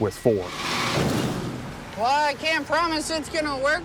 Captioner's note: combines crashing together